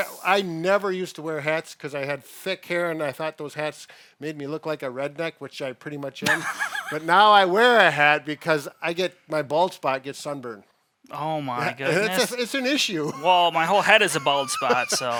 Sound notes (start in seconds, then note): 6.2 laughing; 11.6 laughing